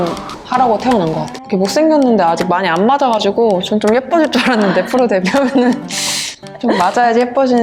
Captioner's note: laughter